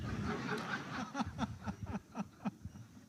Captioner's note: laughter